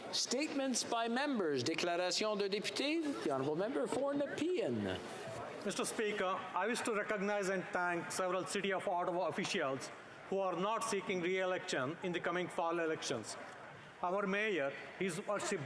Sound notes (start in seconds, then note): 2.8 speaking french